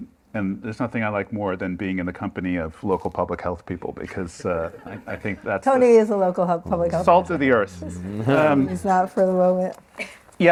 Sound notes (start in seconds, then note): 7.9 laughter